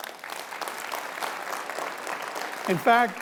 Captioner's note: audience applauding